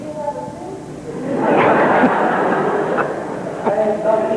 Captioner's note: laughter